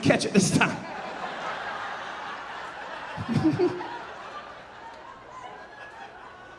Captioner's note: audience laughing; chuckling